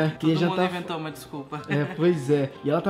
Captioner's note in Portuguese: Risos